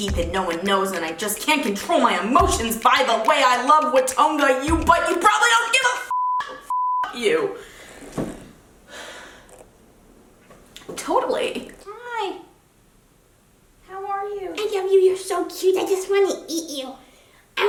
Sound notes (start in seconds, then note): 6.1 beep; 8.8 exhales